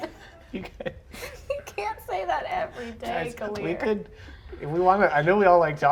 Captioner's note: laughs